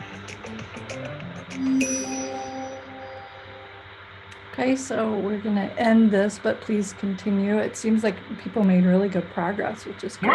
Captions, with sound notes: (bell chiming) - Okay, so we're gonna end this, but please continue. It seems like people made really good progress which is-